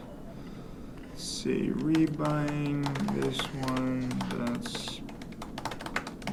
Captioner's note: typing